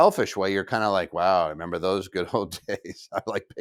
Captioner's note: laughs